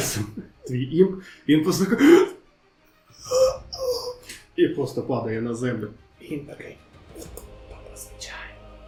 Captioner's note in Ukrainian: стогін